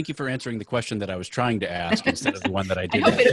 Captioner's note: laughs